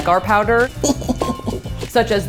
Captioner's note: giggling